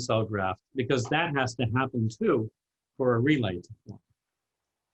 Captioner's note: voice muffled